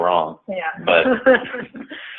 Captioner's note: laughing